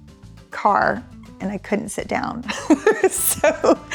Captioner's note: laughs